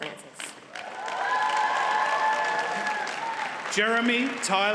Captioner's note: audience cheers and applauds